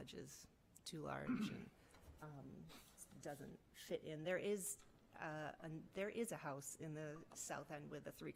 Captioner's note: clears throat